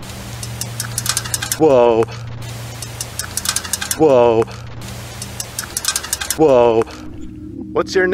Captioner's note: fence Rattles